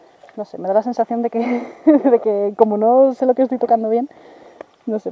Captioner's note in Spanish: se ríe